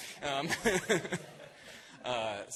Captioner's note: laughter